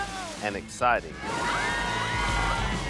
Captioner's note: all exclaiming